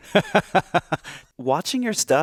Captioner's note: chuckling